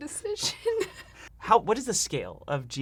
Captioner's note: laughing